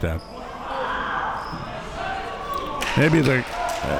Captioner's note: spectators shouting